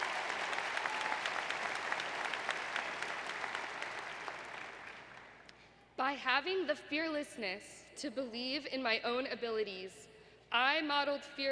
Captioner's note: applause